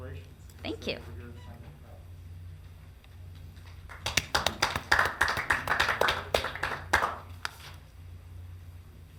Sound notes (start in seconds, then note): 3.5 audience clapping